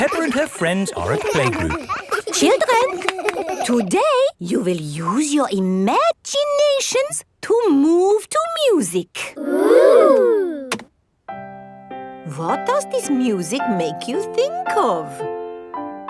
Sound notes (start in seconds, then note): 2.0 all laughing; 11.3 gentle piano music playing